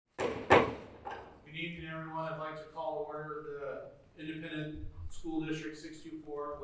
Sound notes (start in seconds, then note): 0.1 gavel banging